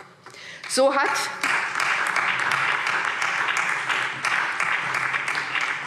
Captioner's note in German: Beifall SPD